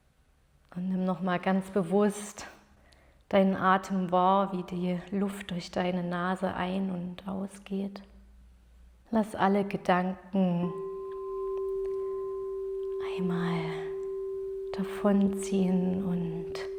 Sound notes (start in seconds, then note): 10.4 clear, ethereal sound